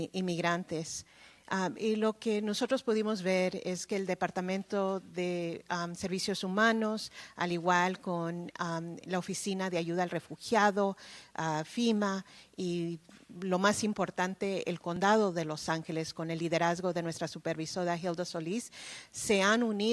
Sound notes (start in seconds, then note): 8.4 speaking spanish